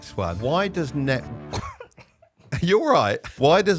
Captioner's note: coughing